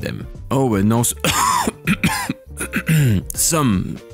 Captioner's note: coughing